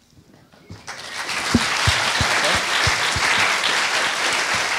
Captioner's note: audience applauding